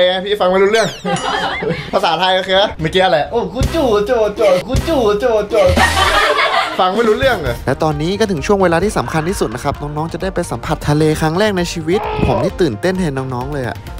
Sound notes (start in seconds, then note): 0.8 laughs; 5.8 laughs